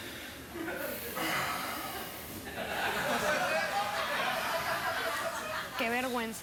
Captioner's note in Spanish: risas